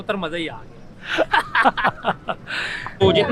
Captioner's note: laugh